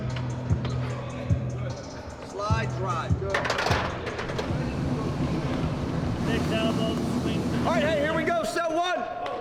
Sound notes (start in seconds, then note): 0.0 intense hip-hop beat music; 3.3 heavy weights clinking